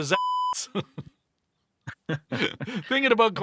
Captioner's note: laughing